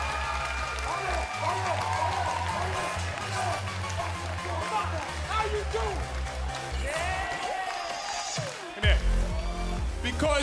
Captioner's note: cheers & applause